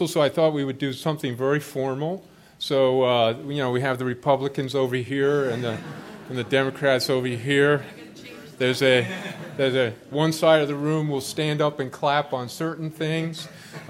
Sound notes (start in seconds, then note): 5.3 laughter